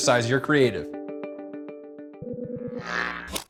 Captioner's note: electricity buzzing